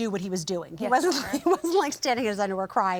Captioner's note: chuckles